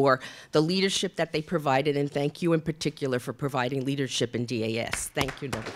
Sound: applause

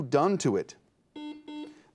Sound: buzzer beeps

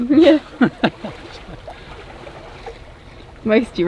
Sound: both laugh

